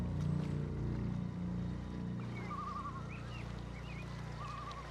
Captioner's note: les oiseaux gazouillent